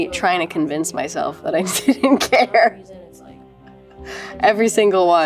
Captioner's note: laughs